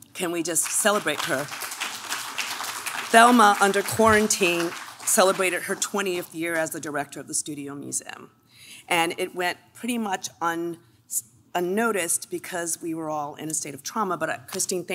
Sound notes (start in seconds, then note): 0.6 clapping